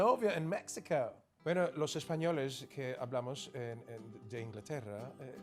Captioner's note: speaking Spanish